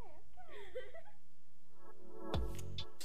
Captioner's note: laughing; techno music